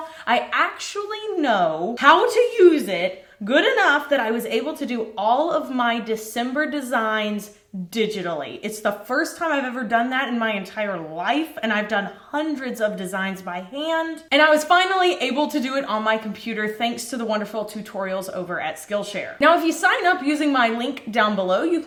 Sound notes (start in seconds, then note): none